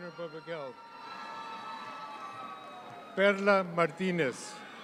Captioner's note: audience cheers